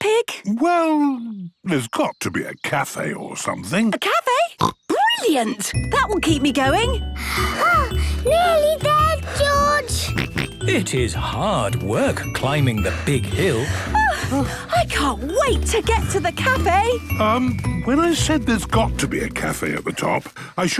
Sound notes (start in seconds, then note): 4.6 snorts; 9.2 panting; 9.9 snorts